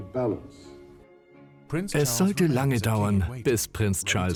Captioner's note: voiceover